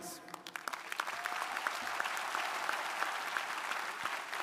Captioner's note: crowd applauding